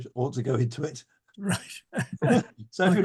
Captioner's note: laughing